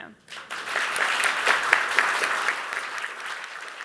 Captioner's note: applause